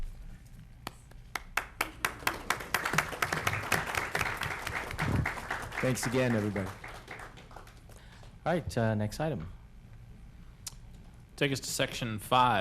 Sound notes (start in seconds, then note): 6.9 applause